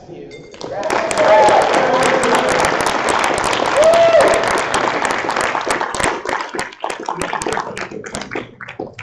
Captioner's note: applause